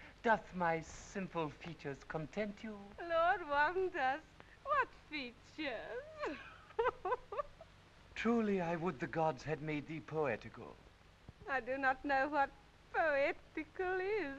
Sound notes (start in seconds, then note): 6.0 laughs